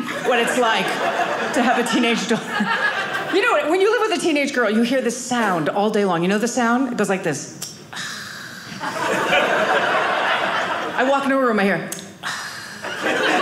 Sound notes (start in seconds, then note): 7.9 sighing; 8.7 audience laughing; 12.2 sighing